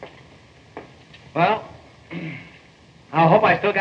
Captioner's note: hammer clears throat